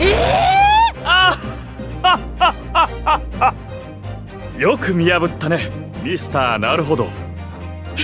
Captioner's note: laughs